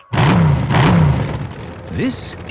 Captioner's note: engines revving